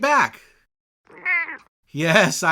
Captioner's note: meow